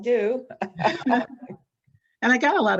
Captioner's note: laughs